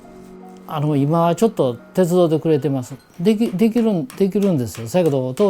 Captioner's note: speaking foreign language